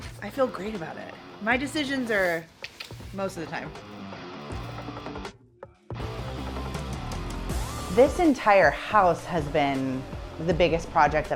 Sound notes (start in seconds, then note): 2.6 tongue clicking; 4.2 rock music